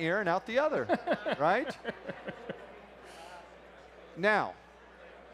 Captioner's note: laughs